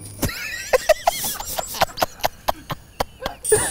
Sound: laughs

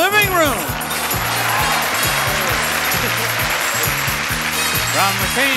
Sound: upbeat music; audience cheering

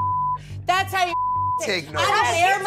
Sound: beep

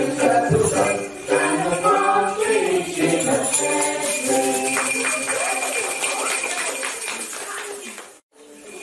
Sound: applause

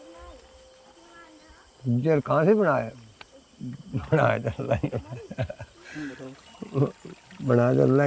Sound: chuckles

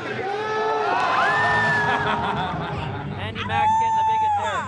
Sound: crowd cheers

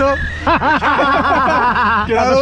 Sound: laughs

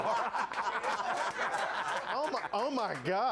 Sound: sound of slapping

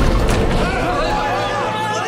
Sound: all clamoring

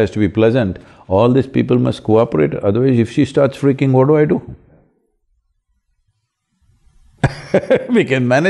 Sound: laughs

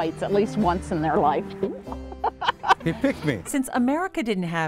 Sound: laughs

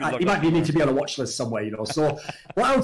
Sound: laughs

